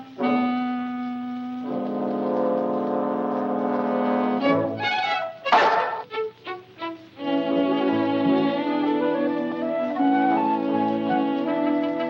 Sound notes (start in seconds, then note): 5.5 Luther barks; 6.5 light hearted music